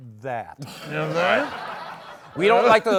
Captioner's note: laughter